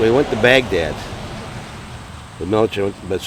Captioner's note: wind whooshing